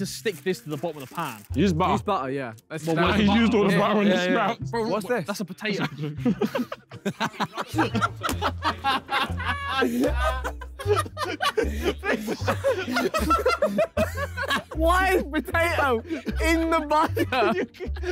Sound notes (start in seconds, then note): 6.7 all laughing